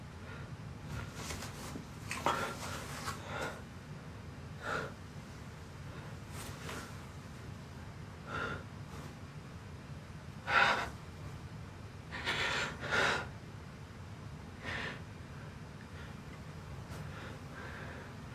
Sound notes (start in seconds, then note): 12.1 Billy sniffling